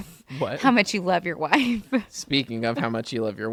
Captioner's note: laughs